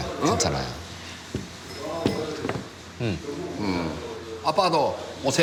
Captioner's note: both murmur